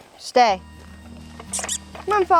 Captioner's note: chirruping